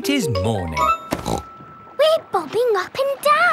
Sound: snorts

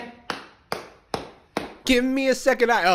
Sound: taps out a rhythm

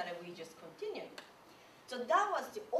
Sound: clap

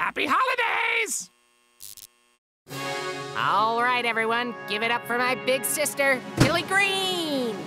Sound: buzz

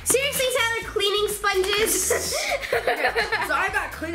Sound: laughing

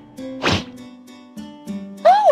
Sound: swiping swoosh

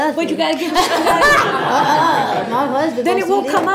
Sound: laughs

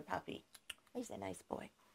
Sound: kisses

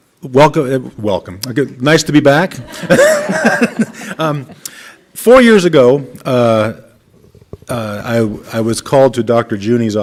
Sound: laughter

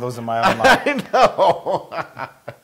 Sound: laugh

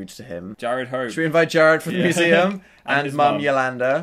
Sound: laughing

